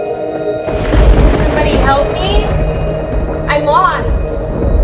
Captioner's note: thunder crashing